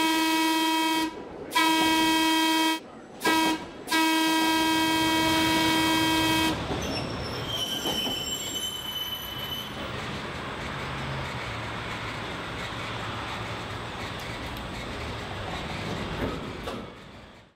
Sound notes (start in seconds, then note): 6.1 railway clacking